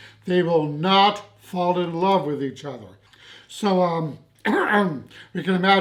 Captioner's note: clears throat